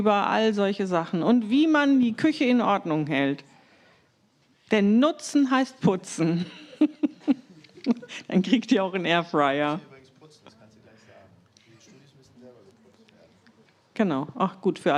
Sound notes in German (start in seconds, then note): 6.3 gelächter